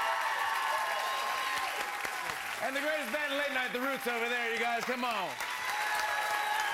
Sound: cheers and applause

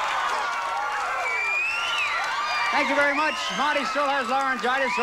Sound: audience applauding

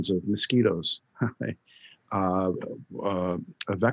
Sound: chuckling

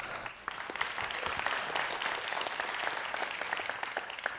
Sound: audience applauds

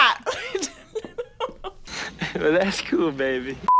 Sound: laughs

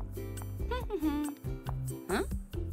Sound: joyful humming

